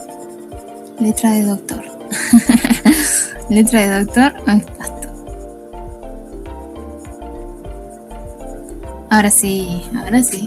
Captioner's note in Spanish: risas